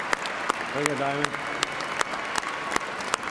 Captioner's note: cheers and applause